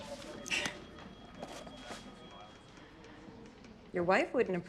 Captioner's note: Madge chuckles